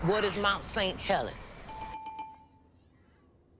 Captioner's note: game bell ringing